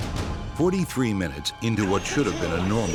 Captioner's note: voiceover